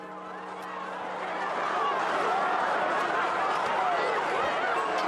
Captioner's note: crowd chattering